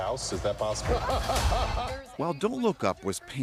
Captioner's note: laughter